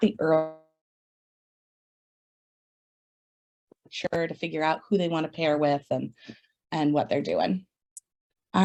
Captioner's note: audio cuts out